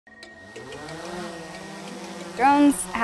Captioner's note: propellers revving up